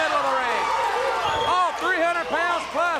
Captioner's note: audience barks